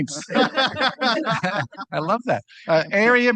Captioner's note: laughter